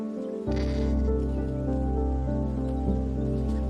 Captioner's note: kakapo cawing